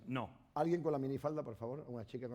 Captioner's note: speaking spanish